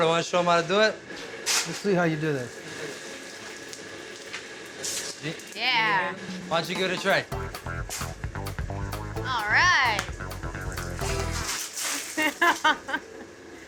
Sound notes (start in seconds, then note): 1.3 coal clattering; 7.9 shoveling; 9.8 coals clattering; 11.9 laughter